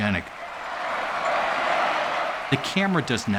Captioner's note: chanting